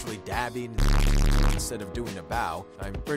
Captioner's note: loud buzzing